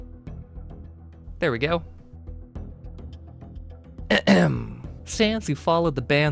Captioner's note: clears throat